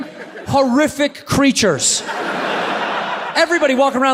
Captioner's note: audience laughs